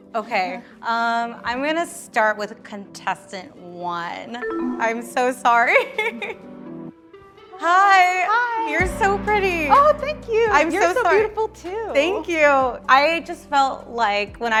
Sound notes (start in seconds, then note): 4.4 descending chiming tone; 5.7 laughs